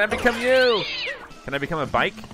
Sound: cat screeches

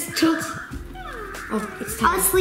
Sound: Hatchimal yawns

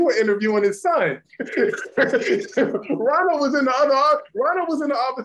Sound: laughter

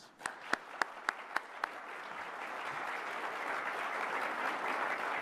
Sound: applause

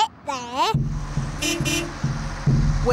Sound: horn beeps

